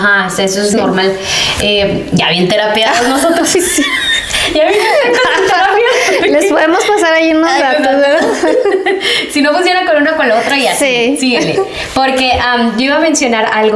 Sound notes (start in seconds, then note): 2.8 laughs